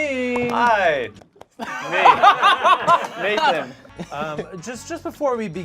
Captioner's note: group laughs